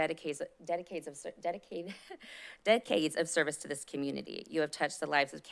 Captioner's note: laughs